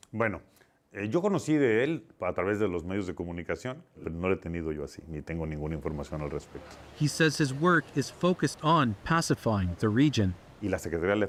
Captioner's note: speaking alternate language